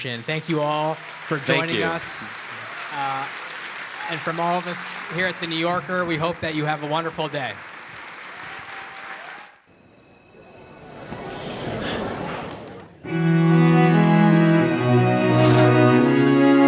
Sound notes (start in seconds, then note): 8.2 audience applauds; 13.1 gentle music